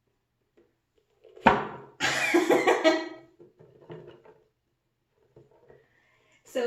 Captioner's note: loud pop and laughter